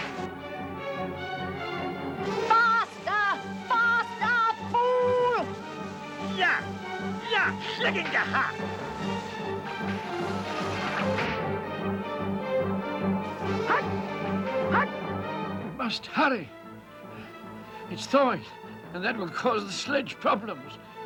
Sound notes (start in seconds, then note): 5.6 barking commands; 12.9 dwarf barking commands; 14.6 panting